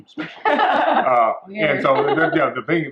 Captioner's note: women laughing